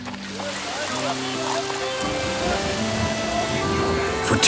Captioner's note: rain splashes